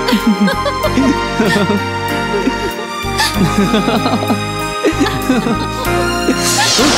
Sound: boris laughs

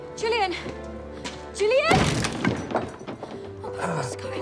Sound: door bangs

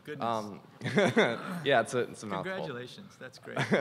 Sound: chuckles

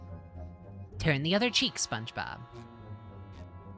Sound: SpongeBob Voice

